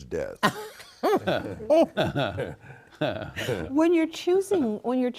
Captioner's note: all laughing